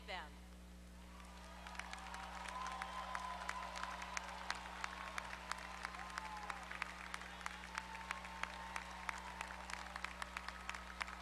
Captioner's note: applause